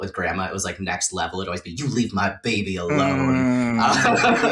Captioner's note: sternly; laughter and vocalizations of deep appreciation